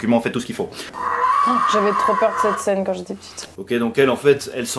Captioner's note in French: Hurlement